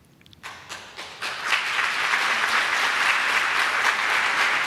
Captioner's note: audience applauding